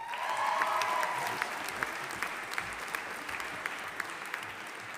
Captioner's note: audience applauding